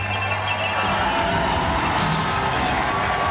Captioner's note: crowd cheering